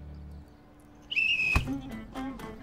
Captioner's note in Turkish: Düdük